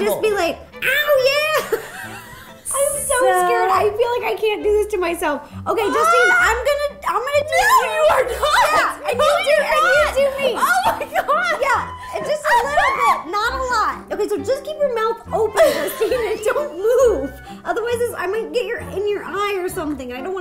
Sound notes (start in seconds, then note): 1.4 both laugh; 13.3 Justine screaming